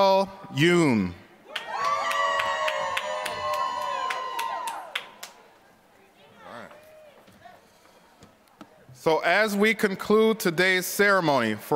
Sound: applause

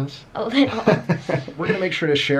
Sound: laughs

